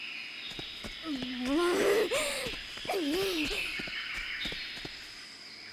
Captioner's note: extremely concerned grumbling